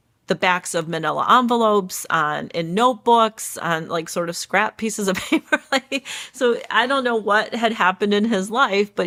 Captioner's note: laughs